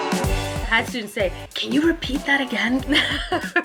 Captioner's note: laughs